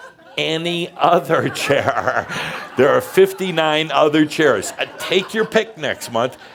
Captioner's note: some chuckles; laughter